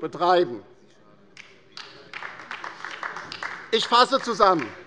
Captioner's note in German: Beifall bei der LINKEN